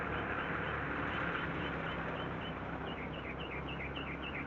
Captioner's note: none